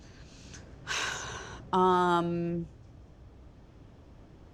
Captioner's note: Theresa sighs